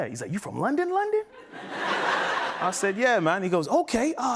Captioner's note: laughter